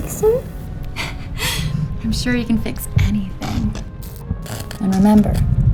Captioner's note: laughs lovingly